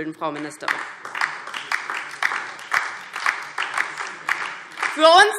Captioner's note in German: Beifall DIE LINKE und vereinzelt SPD